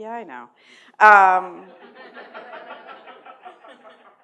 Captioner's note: laughter